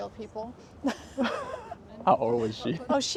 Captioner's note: Laugh